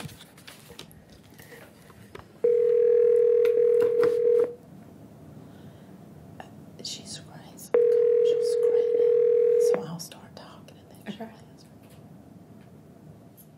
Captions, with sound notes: If she's (whispers), she's screening, so I'll start talking and then she'll answer.